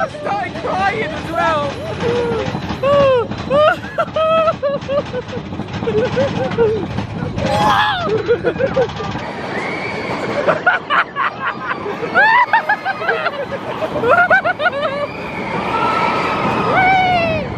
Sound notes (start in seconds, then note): 3.5 laughs; 7.4 yelps; 12.1 laughing